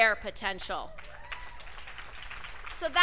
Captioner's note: cheers and applause